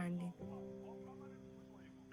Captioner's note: neighbours talking outside